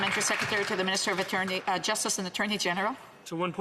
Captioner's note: applause